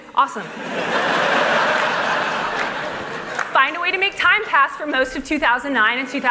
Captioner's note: laughter